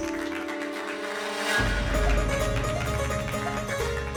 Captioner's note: applause